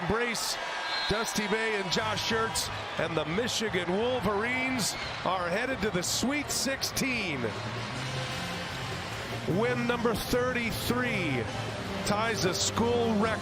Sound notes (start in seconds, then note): 4.1 cheers and applause; 5.6 crowd noise